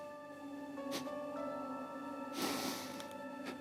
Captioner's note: sniffs repeatedly